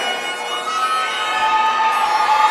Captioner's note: cheering